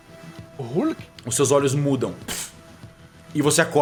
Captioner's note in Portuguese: puff